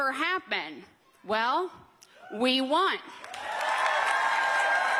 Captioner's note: cheers and applause